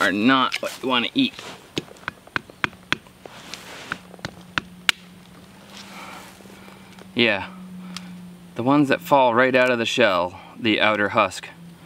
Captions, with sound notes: are not what you want to eat. (tapping) Yeah. The ones that fall right out of the shell the outer husk